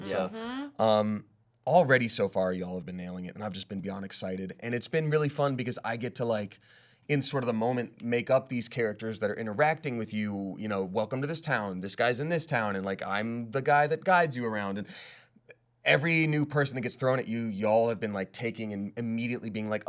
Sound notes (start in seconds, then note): none